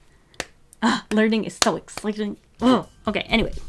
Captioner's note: clap